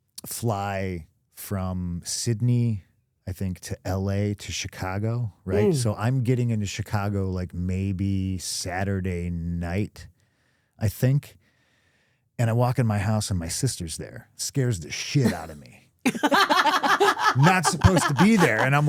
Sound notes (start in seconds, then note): 16.0 laughing